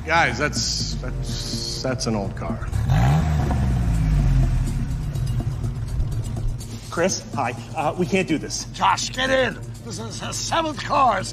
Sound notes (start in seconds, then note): 2.3 car engine revving